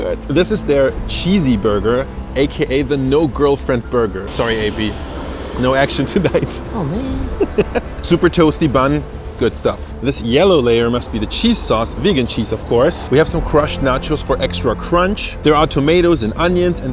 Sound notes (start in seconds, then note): 6.3 laughs